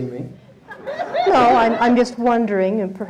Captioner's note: audience laughing